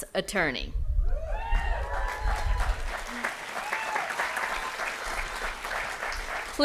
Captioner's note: applause & Cheering